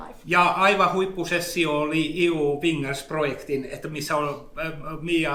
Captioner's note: speaks in Finnish language